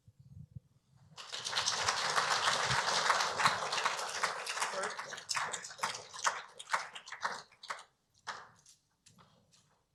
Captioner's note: applause